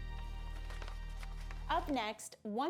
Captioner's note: paper crinkles